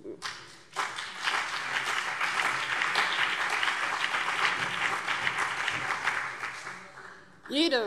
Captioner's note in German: Beifall BÜNDNIS 90/DIE GRÜNEN und CDU